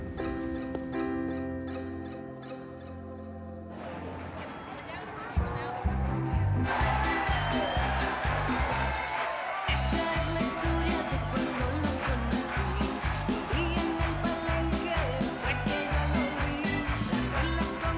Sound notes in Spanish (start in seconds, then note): 6.4 palmadas al compás; 14.9 palmadas al compás